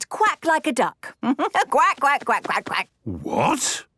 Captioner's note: quacks